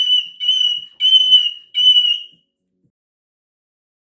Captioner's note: moluccan Yelling